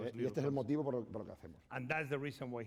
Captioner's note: speaking spanish